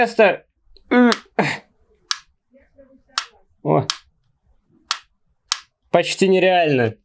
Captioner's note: noisy clicks